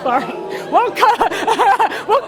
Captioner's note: laugh